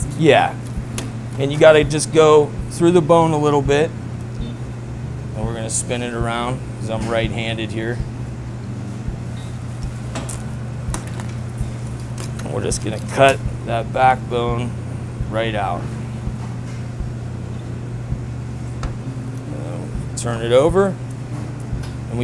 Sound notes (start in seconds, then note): 11.6 bone crunches